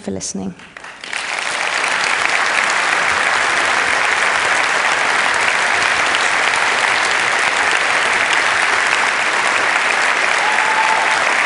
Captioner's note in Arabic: تصفيق